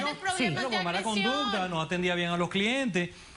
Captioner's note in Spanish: Hablan al unísono